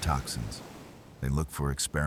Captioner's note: wind Blowing